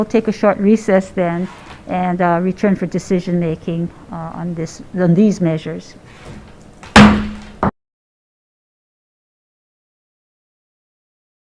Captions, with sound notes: we'll take a short recess then and a return for decision-making on this, on these measures. (gavel slams)